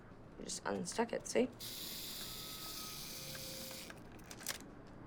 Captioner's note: timer whirring